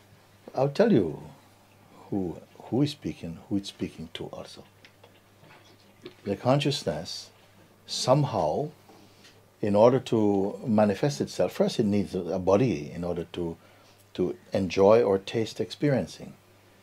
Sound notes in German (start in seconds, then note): none